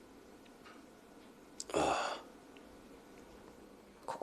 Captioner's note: detective sighs deeply